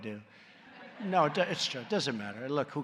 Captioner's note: laughter